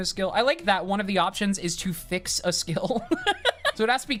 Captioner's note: laughs